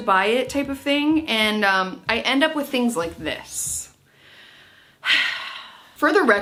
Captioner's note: sighs